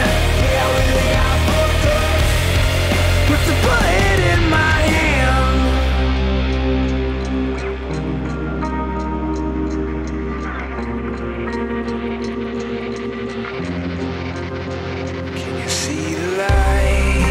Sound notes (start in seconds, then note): 5.3 clock ticking